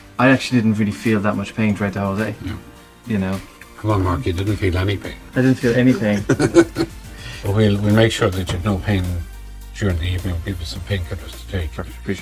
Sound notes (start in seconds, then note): 5.5 laughs